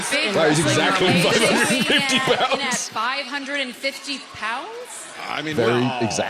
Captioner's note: laughs